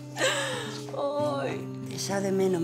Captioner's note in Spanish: Risas